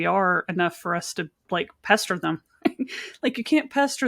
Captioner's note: giggles